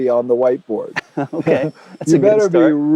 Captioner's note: laughs